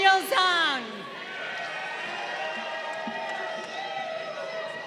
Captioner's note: crowd cheering